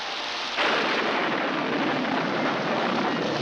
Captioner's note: thunderclap